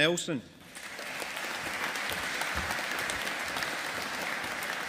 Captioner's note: audience applauding